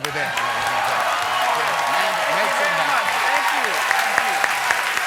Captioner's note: cheers and applause